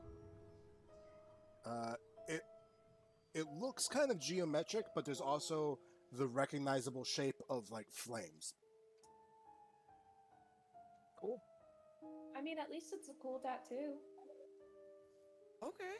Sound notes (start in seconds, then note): none